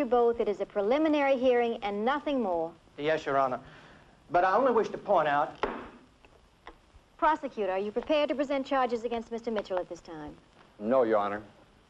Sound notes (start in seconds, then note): 5.6 gavel banging